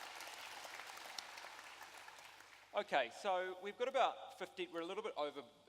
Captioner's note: applause